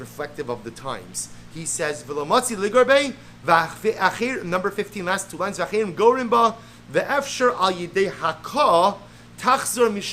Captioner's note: Hebrew